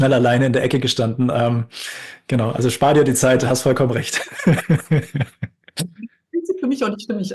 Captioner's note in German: gelächter